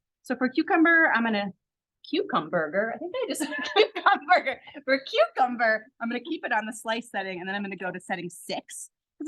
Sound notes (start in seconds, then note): 3.4 laughs